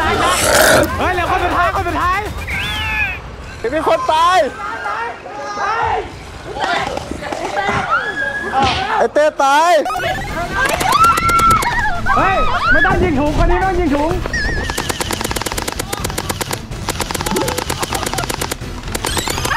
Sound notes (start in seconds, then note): 5.3 shouts; 10.4 gunshot firing; 10.8 screams; 14.3 gunshot firing